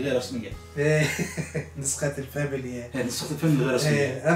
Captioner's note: laughing